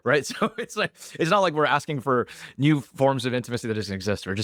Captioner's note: laughs